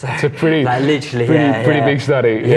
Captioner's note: giggles